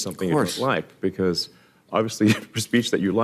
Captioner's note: chuckles